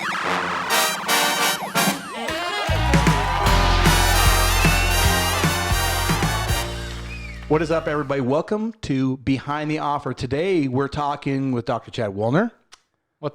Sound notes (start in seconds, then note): 0.0 drum roll; 0.6 jazzy music; 2.6 audience cheering